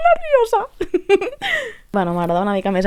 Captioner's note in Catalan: Riure histèric